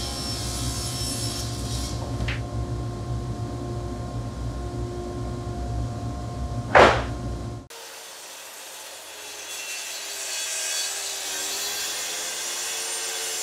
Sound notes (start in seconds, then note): 6.7 plywood thudding; 7.7 saw brattling